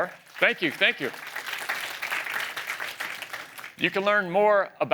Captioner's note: applause